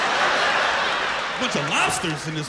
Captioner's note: laughter